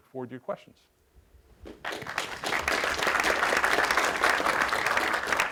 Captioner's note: applause